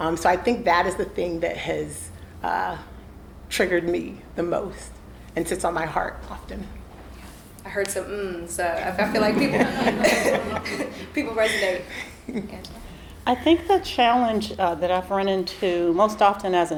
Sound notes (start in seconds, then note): 8.9 all laughing